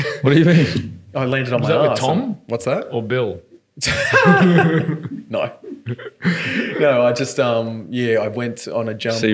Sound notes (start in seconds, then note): 3.9 laughing